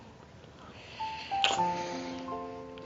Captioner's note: lips smacking